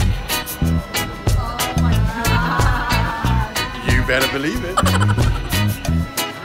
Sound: chuckle

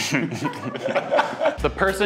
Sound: everyone laughing

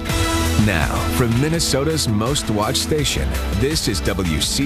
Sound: voiceover

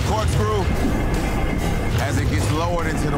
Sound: water gurgling

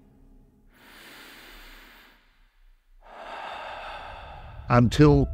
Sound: troop breathes heavily

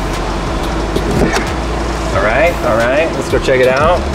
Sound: mechanism locking into place

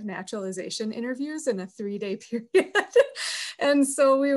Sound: laughs

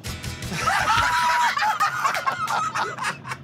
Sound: laughter

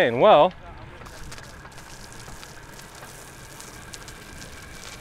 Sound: water splashing

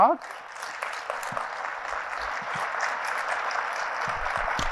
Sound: audience applauds

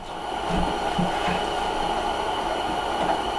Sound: air whooshing

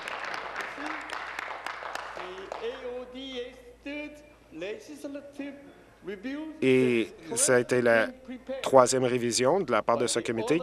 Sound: applause

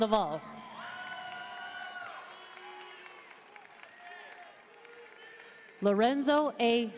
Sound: audience cheering and applauding

